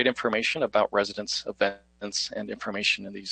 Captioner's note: audio cutting out